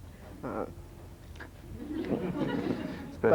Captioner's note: laughter